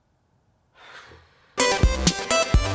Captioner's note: sighs